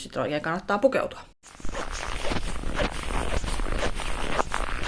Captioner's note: sounds of steps, snow crunches